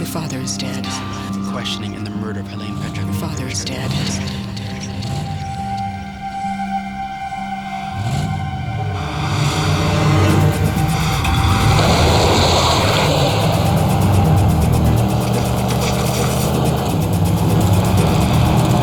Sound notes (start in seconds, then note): 5.4 ominous orchestral music; 7.9 motor revving